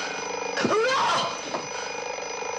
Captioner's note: alarm buzzing